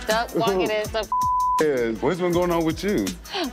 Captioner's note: beep